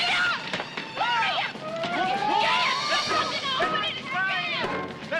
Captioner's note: all shouting